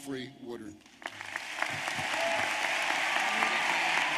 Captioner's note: applause